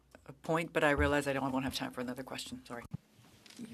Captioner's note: speaking French